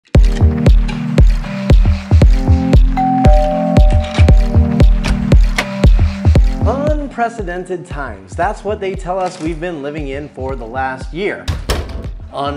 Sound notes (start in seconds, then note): 0.1 upbeat music; 3.0 doorbell rings